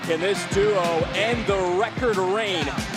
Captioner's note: bell rings